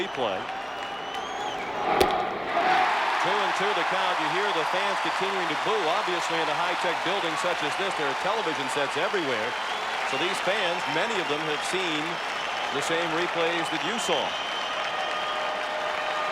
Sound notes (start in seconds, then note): 8.9 cheering and Applause